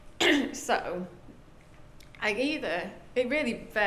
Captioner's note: clears throat